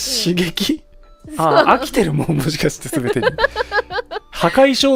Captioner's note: laughs